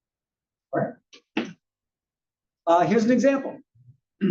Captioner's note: cough